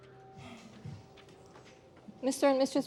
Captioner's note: sighs